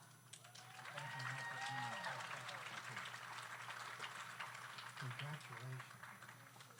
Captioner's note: audience applauds; audience cheers